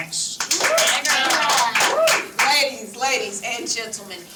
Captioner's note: team clapping